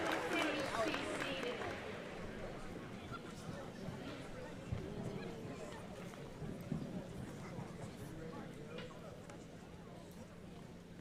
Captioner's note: applause